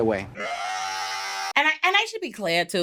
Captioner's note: screaming